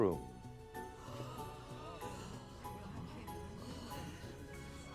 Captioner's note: everyone gasping